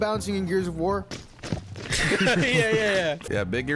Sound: both laughing

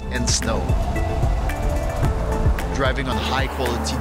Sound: car whirring

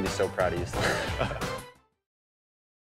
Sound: both laugh

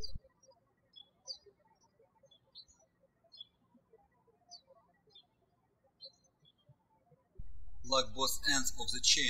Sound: birds chirping

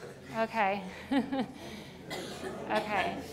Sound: laughs

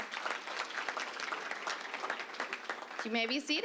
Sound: applause

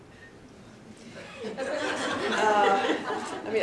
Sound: laughter

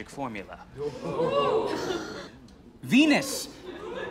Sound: crowd

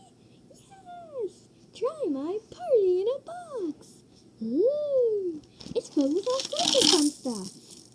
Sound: ooh!

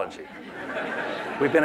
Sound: laughter

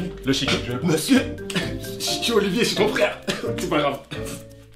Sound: catching his breath

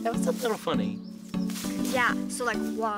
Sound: rustling

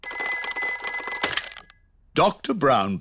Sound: ringing

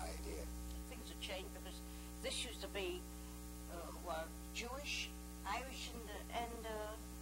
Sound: female voice

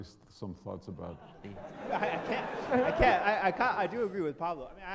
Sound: audience laughter

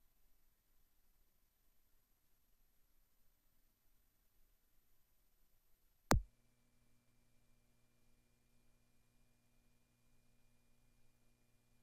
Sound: silence

